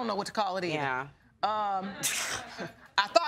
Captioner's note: scoffs